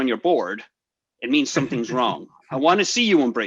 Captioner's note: laughs